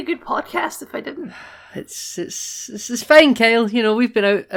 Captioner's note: laugh; sigh